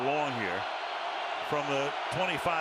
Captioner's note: cheering